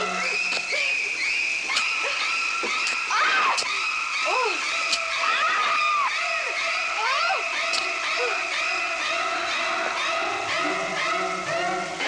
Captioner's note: screaming